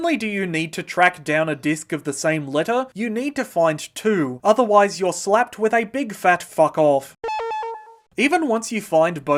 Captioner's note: passive aggressive beeping